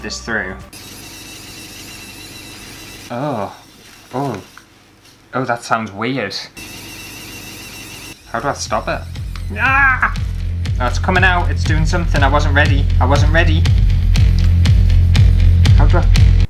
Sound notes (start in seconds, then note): 0.7 buzzing Sound; 6.3 buzzing Sound; 13.5 suspenseful Music